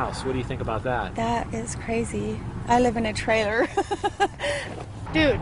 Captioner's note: laughter